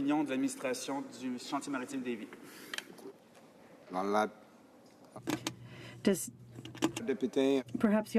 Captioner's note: speaking in french